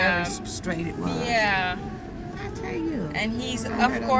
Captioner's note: frustrated